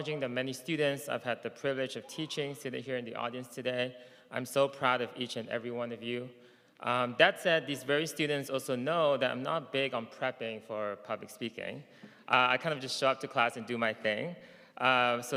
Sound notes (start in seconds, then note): none